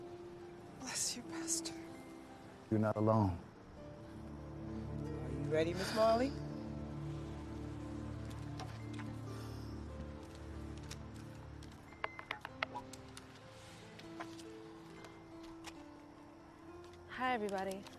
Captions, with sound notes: Bless you, Pastor. You're not alone. Are you ready, Miss Marley? [click, fefeedback crackles] Hi, everybody. Um...